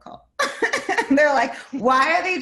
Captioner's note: laughs